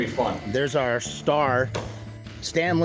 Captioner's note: gate closes